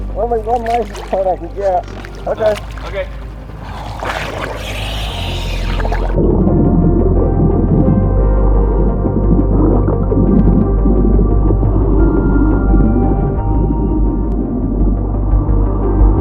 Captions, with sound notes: Only one license plate I could get. Okay. - Okay. (oxygen mask hums) (tense synth music continues) (water bubbles)